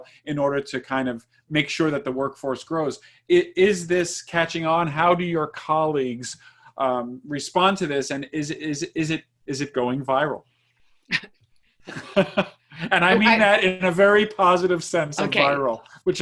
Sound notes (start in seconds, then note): 11.8 laughs